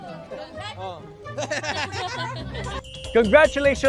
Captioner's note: laughter